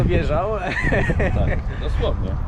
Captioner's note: laughter